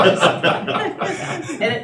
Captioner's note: laughter